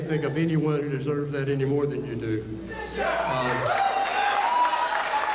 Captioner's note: cheering